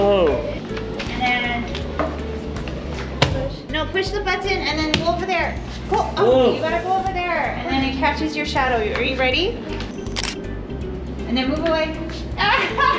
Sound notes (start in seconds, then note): 10.1 camera clicks; 12.4 laughing